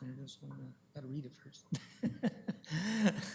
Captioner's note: chuckles